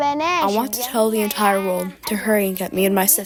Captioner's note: through translator